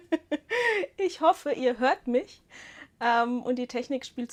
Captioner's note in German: Gelächter; japst